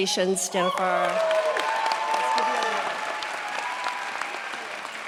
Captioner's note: cheers, applause